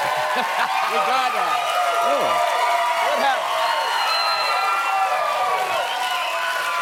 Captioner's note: cheering and applause; laughs